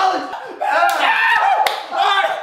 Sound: screams

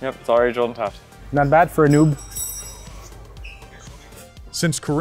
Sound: tools clinking; voiceover

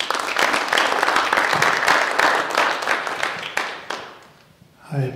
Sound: audience applauding

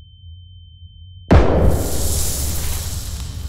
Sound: gun shot

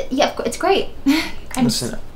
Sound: emma nervously laughs

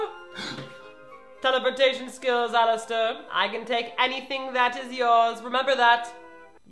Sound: gasps

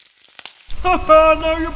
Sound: sizzling

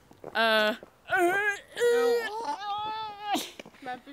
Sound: more dying walrus noises

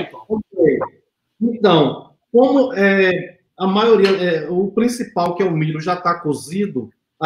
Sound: speaks portuguese

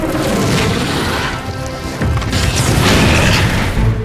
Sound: fire crackling; roaring

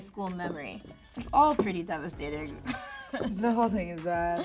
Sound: laughing

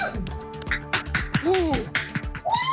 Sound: clapping

